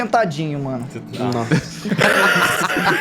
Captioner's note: laughs